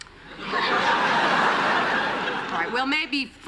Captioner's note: laughter